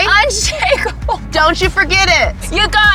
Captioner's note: laughing